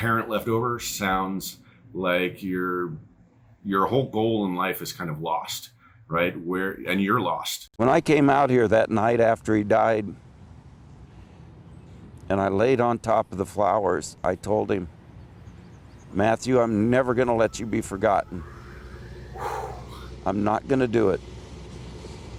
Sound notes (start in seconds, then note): 19.4 sighs